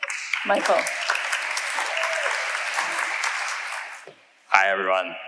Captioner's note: audience applauding